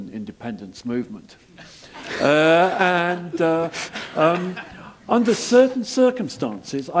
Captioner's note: laugh